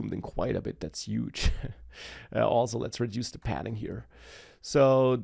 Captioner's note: laughs